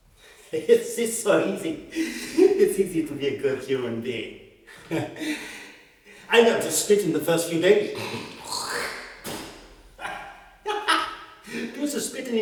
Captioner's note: spits